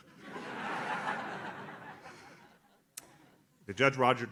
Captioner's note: audience laughs